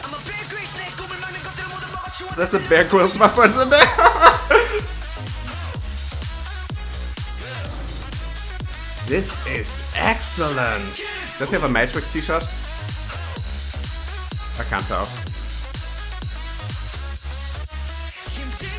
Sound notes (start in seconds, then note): 2.4 laughs